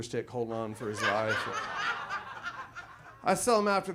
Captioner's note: audience laughs